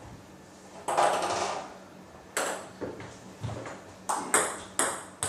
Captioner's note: balls ping pong hitting continues